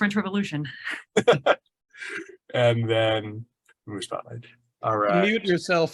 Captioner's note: laughs